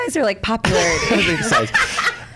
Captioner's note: laughs